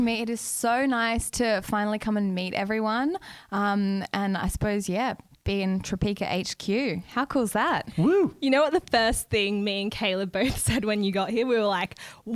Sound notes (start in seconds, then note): 7.9 hoots